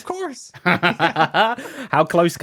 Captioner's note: laughs